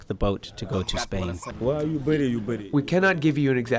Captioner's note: through translator